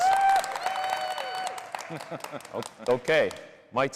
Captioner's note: applause, cheering